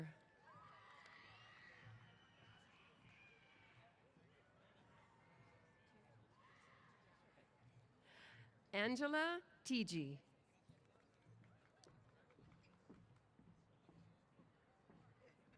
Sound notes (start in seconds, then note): 0.4 cheers